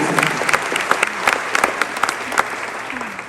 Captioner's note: crowd cheers